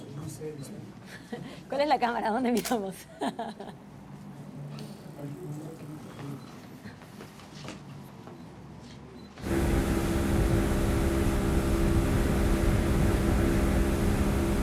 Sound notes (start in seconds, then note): 2.5 camera shutter clicks